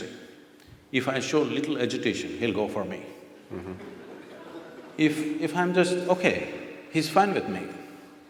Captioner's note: laughter